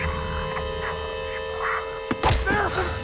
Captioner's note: distorted voice whispers; Nick gasps